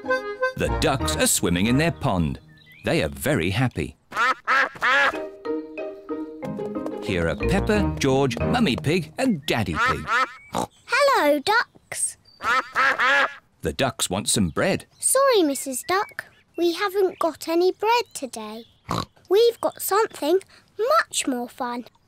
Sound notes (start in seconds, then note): 4.1 ducks quack; 10.4 snorts; 12.3 ducks quack; 18.9 snorts